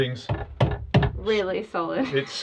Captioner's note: wood panel thudding